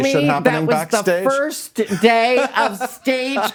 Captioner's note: laughing